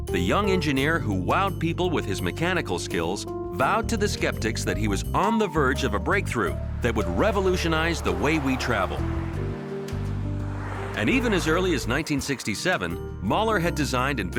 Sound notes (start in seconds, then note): 9.2 gentle relaxed music; 9.2 traffic roaring